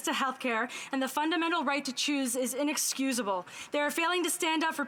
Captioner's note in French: voix de l'interprète